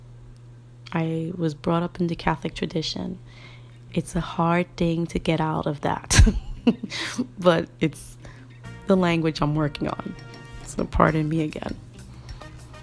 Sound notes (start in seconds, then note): 6.2 giggle